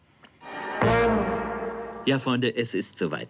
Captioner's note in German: Eindringlicher Klang